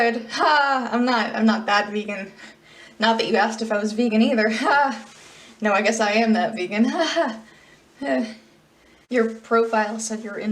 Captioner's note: awkward laugh